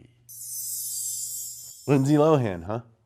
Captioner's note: chimes jingling